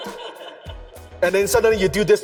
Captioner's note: audience laughs